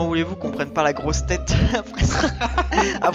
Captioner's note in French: rires